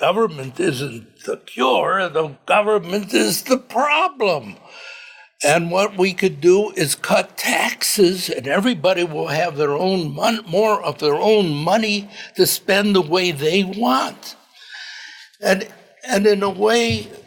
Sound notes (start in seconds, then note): none